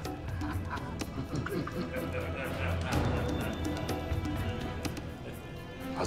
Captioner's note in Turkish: Gülme sesleri